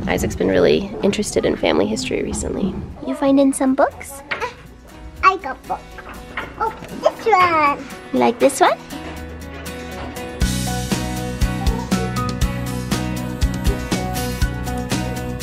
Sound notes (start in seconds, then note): none